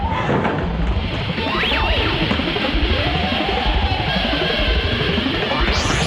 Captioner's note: static buzzing; ominous music